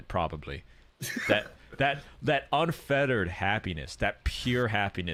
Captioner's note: wheezes